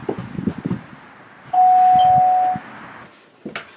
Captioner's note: Detective rings doorbell